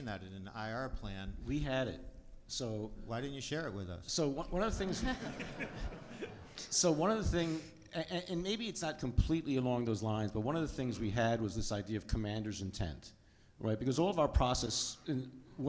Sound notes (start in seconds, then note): 4.8 audience laughs